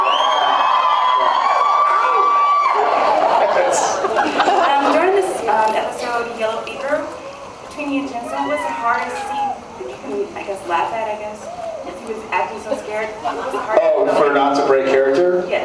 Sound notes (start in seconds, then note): 0.0 cheers; 3.5 laughing